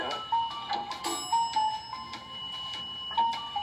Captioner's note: elevator ding